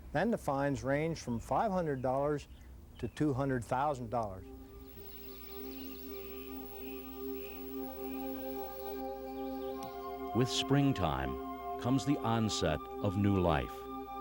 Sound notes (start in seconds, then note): 4.2 intriguing orchestral music; 4.9 birds chirping